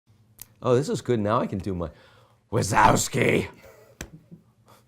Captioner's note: impersonation of a character from Monsters Inc